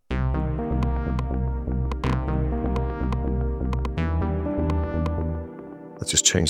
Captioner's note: clicking